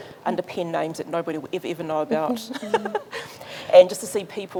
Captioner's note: laughs